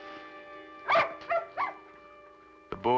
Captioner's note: barking